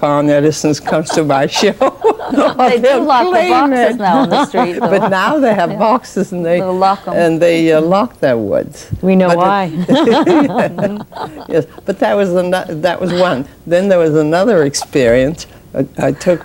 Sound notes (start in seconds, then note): 6.7 laughs